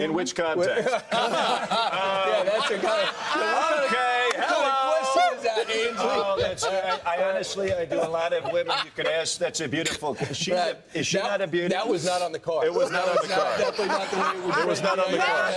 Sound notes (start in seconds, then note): 9.8 laughter; 12.8 laughter